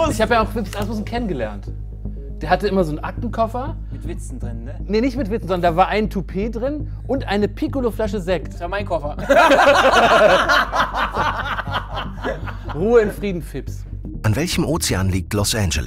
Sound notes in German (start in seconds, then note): 9.2 Lachen